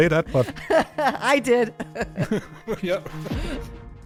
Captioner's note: laughs